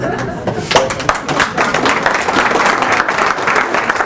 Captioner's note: applause